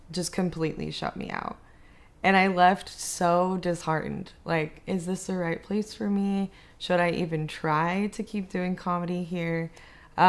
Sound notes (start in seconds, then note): none